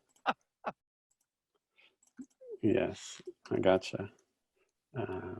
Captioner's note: chuckles